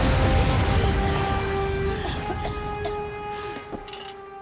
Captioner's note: coughing